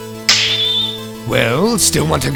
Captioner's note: snap!